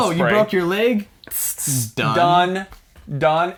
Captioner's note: pssh; psssh